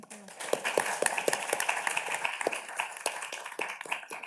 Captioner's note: audience claps